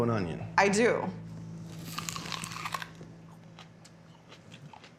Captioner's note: biting, chewing